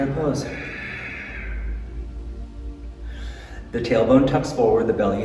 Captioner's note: exhaling